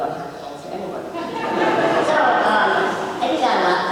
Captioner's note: audience laughs